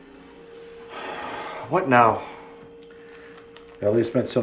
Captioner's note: sighs